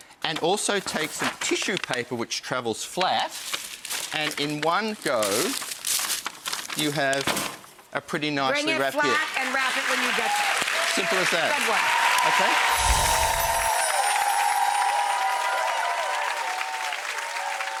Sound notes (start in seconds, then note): 10.4 audience clapping; 12.5 audience cheering; 12.7 bells chiming; 14.6 audience cheering